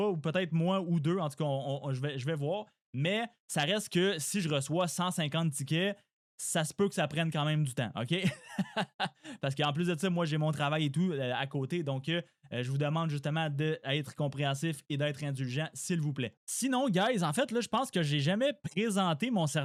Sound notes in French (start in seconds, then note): 8.2 rires